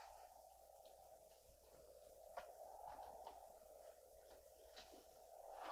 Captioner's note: wind continues whooshing